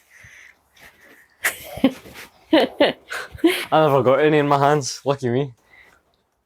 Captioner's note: laughter